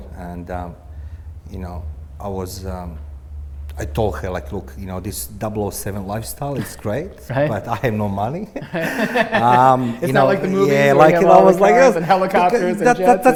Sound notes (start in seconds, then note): 8.4 both laughing